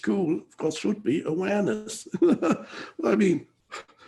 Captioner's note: chuckles